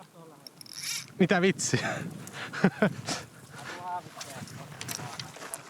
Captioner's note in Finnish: naurua